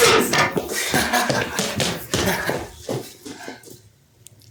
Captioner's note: laughter